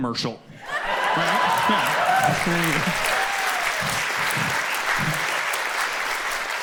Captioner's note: audience cheers and claps